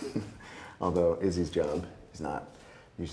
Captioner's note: Wes giggling